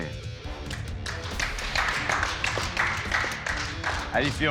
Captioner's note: applause